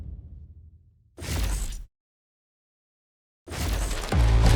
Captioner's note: logo crackling